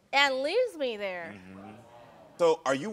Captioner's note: audience mumbling